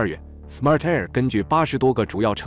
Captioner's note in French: en anglais seulement